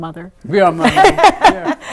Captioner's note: laughing